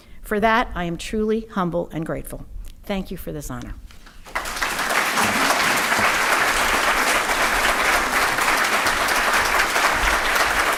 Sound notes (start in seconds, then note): 4.2 audience applauding